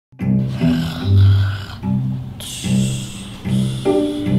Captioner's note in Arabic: أصوات الشخير